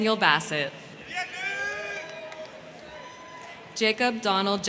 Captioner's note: crowd cheering; crowd clapping